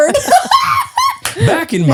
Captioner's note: laughs; claps hands